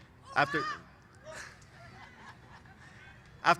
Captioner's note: cheers